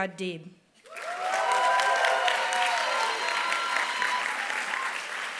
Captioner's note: applause